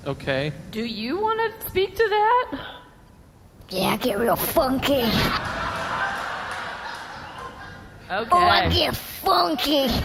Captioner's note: funky voice